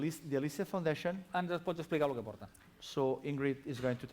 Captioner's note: non-english speech